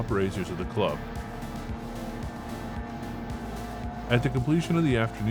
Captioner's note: powerboats revving; upbeat music continues